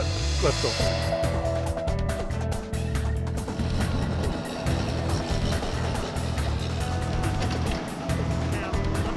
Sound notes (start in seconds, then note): 3.6 machinery whirring